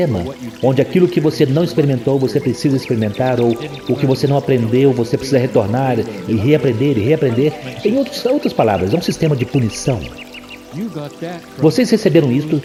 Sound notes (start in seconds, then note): 10.8 laughs